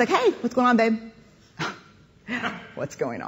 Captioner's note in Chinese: 冷笑聲